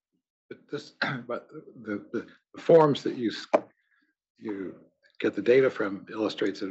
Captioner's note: cough